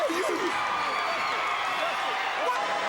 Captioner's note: crowd cheering